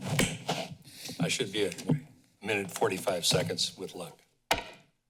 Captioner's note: sniffles